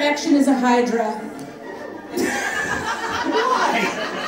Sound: audience laughing

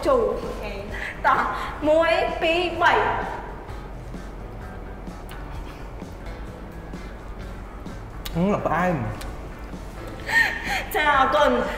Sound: laugh

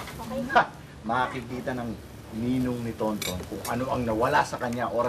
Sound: scoffs

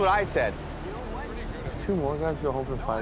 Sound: distant arguing continues

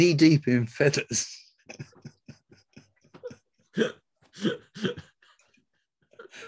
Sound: laughs

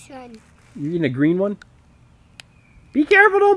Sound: voiceover

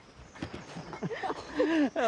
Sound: laughter

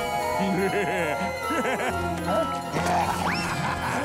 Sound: laughing

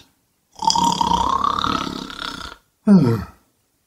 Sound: snore

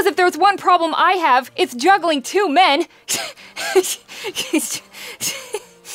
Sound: laughing nervously

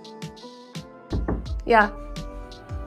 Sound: door knocking

